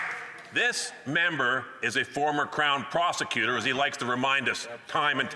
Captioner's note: some Applause